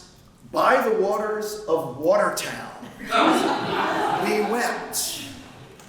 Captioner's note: laughter